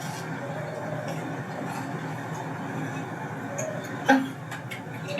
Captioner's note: pigeon coos